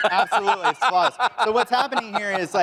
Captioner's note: laughter